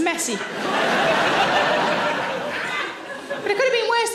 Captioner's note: audience laughing